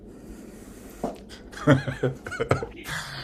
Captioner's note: laughs